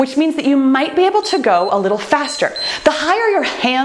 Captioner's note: timer beeps